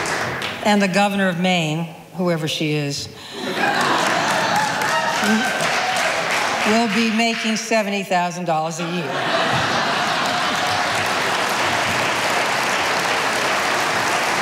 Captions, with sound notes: And the governor of Maine, whoever she is, (audience laughing) will be making $70,000 a year. (audience applauding)